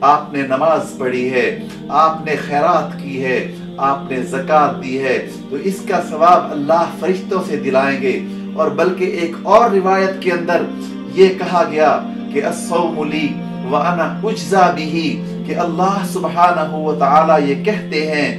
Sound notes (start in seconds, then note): 9.6 Arabic